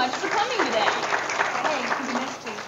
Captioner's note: audience applause